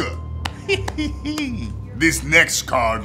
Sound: slaps thigh

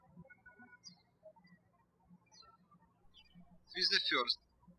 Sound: birds chirping

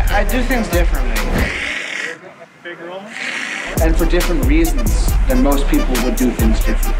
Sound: hissing

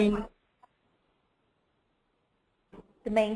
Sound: silence

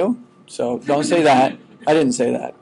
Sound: students chuckling

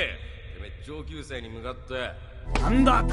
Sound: in Japanese

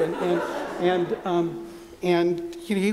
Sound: laughter

